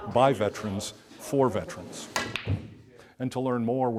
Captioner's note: pool balls clink